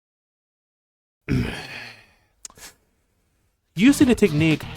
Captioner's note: frustrated noises